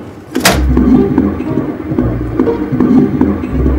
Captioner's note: heartbeat